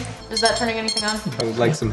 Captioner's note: beeping